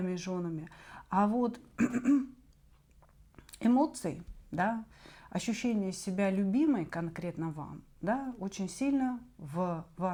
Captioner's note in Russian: откашливается; кашель